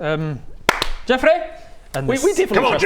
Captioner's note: clap clap